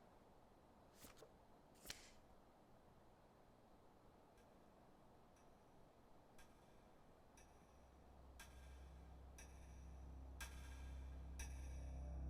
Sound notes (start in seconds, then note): 7.2 clock ticking; 7.3 suspenseful music